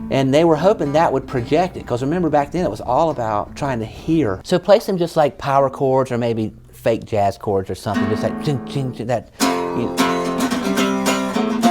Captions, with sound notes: And they were hoping that would project it, because, remember, back then it was all about trying to hear. So play some, just, like, power chords or maybe fake jazz chords or something, just like *mimicking strumming* [guitar playing]